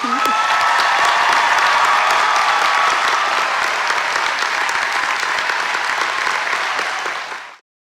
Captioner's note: applause and cheering